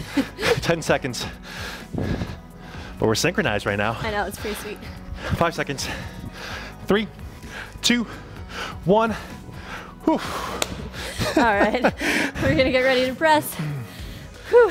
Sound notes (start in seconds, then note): 0.0 laughs; 9.2 exhales